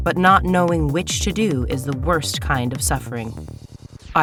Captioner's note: none